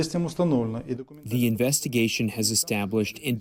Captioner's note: through translator